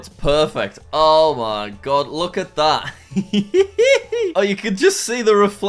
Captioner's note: laughs